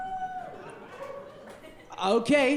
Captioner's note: audience weakly cheering